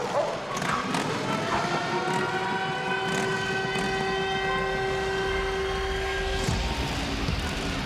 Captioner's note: sirens